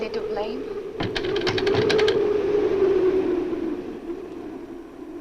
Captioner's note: window shutters rattle